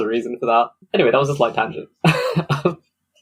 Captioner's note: laughs